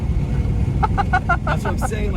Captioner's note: laughing